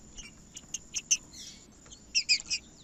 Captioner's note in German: trinca ferro cantando